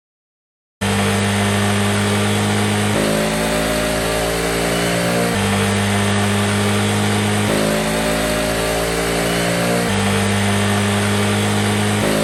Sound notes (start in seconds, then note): 0.8 engine revving - side-by-side comparison